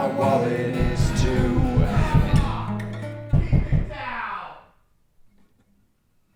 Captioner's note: banging on wall